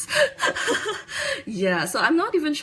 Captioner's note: laughs